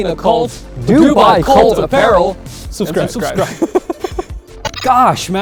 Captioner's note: laughing